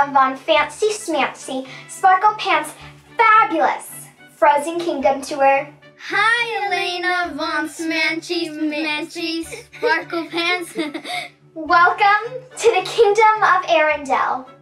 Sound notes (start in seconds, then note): 9.3 laughs